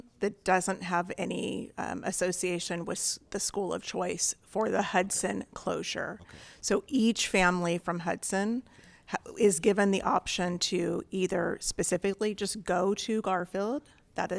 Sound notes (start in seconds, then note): none